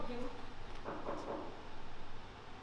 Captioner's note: knock on door